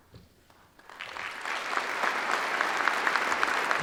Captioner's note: applause